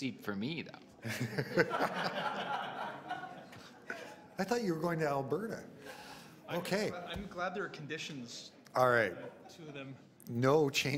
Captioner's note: laughter